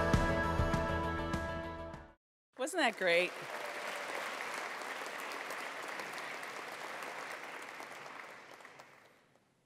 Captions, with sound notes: Wasn't that great? (attendees applauding)